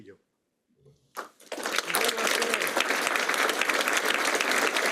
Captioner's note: applause